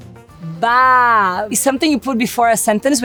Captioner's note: upbeat music; speaks Portuguese